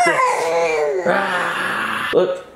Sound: growls

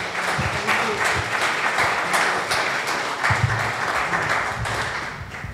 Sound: audience applause

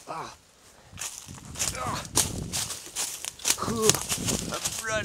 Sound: leaves crunching

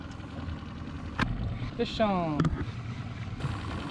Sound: boat engine idling

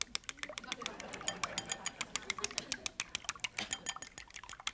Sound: audience laughing

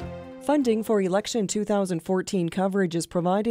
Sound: voiceover

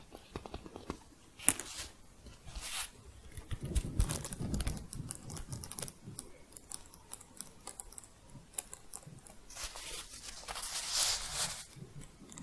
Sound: jingling and shuffling

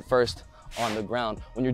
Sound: whoosh

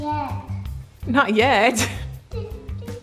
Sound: laughs

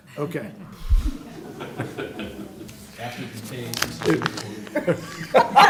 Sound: laughter

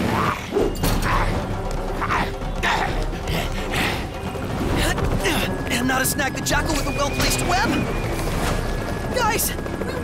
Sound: grunts

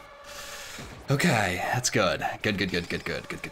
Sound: exhales sharply

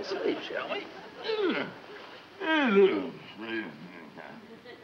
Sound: Brad groans

